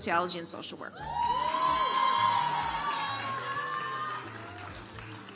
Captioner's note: audience applauds